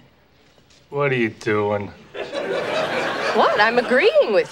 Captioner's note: audience laughing